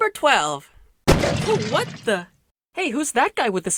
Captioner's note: wood shattering